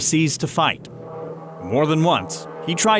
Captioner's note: plane engine